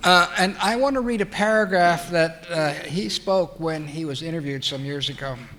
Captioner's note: laughs